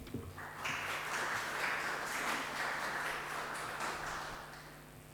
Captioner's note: audience applauds